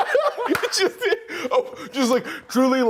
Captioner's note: both laughing